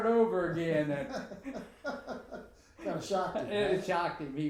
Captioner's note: laughing